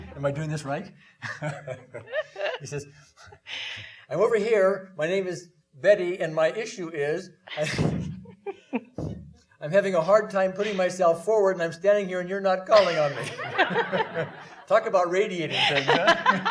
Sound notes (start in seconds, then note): 0.0 laughing; 1.5 laughing; 8.3 laughing; 12.7 audience laughing